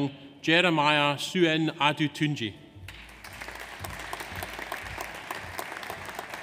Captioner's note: audience applauds